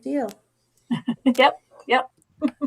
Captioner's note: laughing